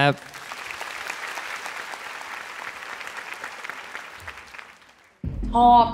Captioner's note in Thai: ปรบมือ